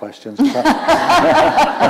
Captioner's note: laughter